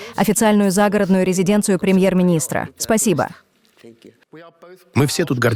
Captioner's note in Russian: Говорит по-английски